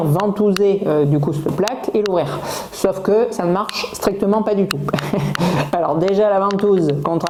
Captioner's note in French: rires